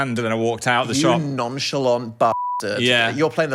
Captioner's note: beep